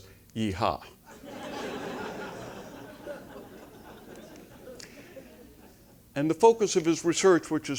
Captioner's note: laugh